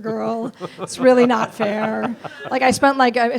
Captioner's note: laughs